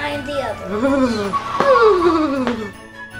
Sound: shivers; car wheels accelerating; suspenseful music

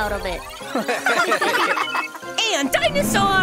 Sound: students laughing

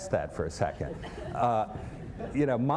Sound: laughter

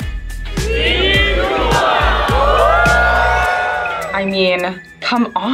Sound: crowd; cheers

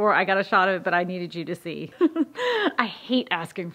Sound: laugh

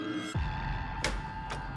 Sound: dramatic electronic music; door clattering

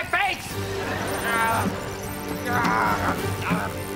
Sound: groaning

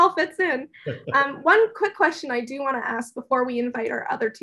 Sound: laugh

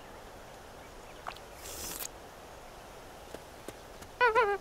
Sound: alien licking lips

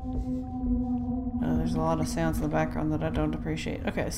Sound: ghostly wail

